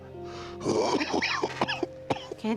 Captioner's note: coughing